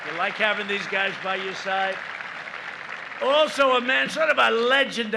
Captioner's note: applause